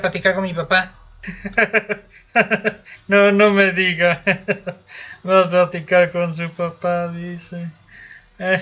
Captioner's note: laughs